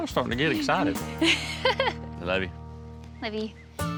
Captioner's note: giggles